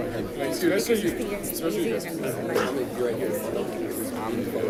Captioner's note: crowd chatting